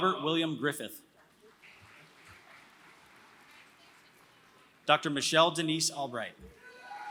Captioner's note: applause